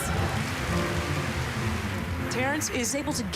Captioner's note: cheering